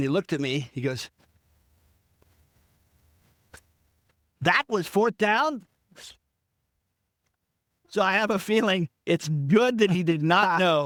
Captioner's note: laughing